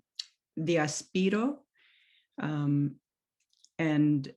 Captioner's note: non-english speech